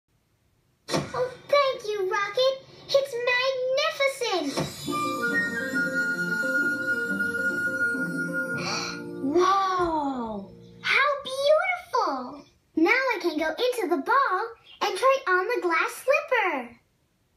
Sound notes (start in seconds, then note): 8.6 gasp!